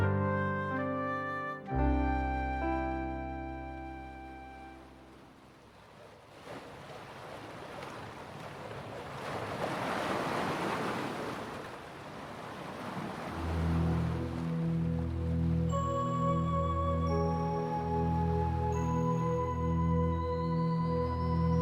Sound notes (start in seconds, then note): 0.0 sweet piano music; 6.3 waves crashing; 13.3 haunting music